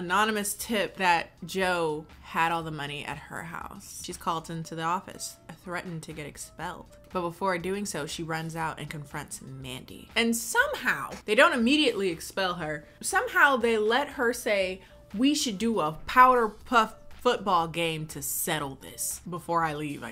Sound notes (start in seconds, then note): none